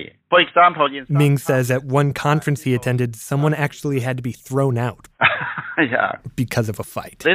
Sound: laughs

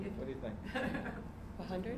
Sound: laughing

